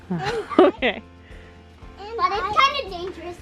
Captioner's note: laughs